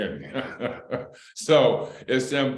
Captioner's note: laughter